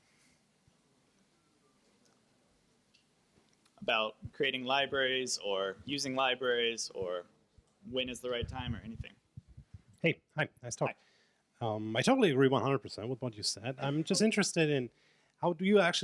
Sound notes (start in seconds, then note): 10.0 voiceover